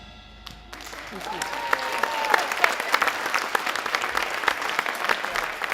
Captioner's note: audience applauding and cheering